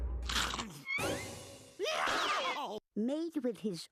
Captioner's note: scrunching; screaming